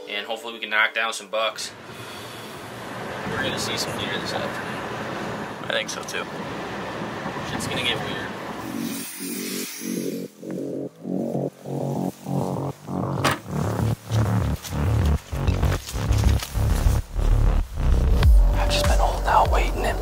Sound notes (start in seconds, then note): 8.8 fast upbeat music; 12.9 footsteps pattering; 13.2 door bangs